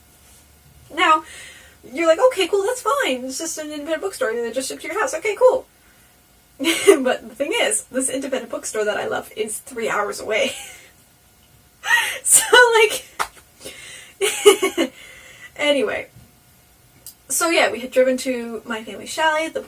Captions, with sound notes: Now, you're like, "Okay, cool, that's fine, It's just an independent bookstore and they just shipped to your house. Okay cool." But the thing is, this independent bookstore that I love is three hours away *giggling*. So like. *giggles* Anyway. So yeah, we had driven to my family's chalet,